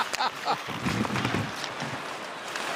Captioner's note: laughter